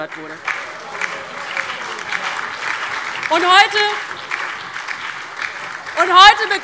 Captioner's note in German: Lebhafter Beifall DIE LINKE, BÜNDNIS 90/DIE GRÜNEN und SPD